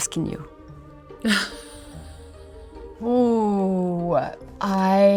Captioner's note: magical music; Olivia laughing